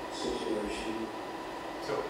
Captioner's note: indistinct chatter